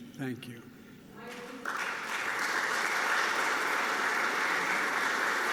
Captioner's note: applause